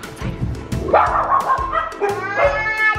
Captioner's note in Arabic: نباح كلب